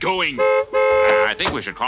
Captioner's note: car honks